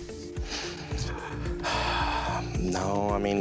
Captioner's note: sighs heavily